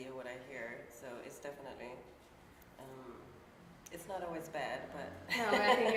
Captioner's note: laughs